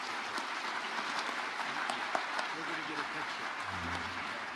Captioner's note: audience applauding